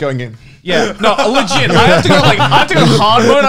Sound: laughing

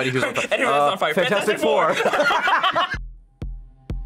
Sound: laughs

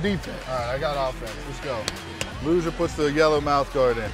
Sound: slaps ball

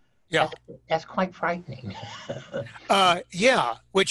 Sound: chuckling

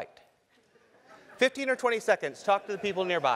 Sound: laugh

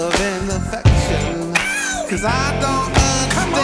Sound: aaow!

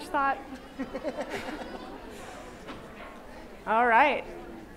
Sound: laughter

